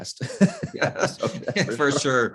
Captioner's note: chuckles